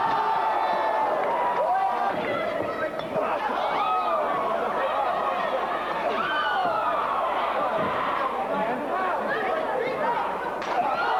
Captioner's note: crowd cheering